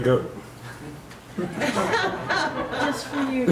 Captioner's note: audience laughs